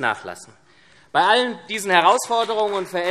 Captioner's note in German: Beifall SPD